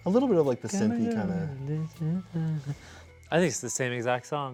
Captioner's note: humming